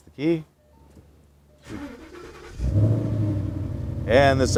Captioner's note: car starting